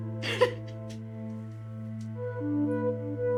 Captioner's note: Ally crying